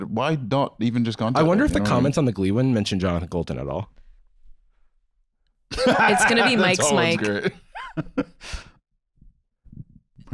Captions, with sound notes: - Why not contact him? - I wonder if the comments on the Glee one mention Jonathan Coulton at all. - The top one's great. (laughing) - It's gonna be Mike's Mic.